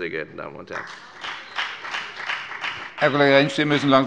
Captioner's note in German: Beifall bei der FDP